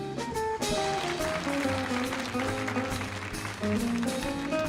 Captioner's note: audience applauding